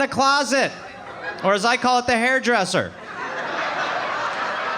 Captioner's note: audience laughing